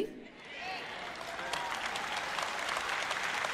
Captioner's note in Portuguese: audiência aplaude